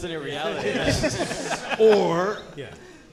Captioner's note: audience laughing